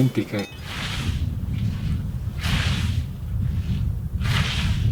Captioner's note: scythe mowing